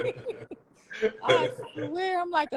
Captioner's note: laughing